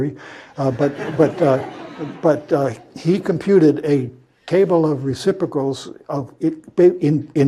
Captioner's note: laugh